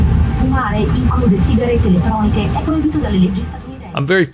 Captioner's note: speaking Italian